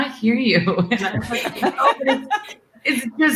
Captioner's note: everyone laughing